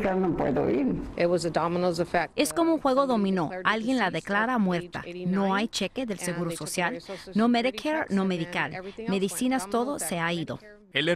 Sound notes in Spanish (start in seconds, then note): 6.6 habla en inglés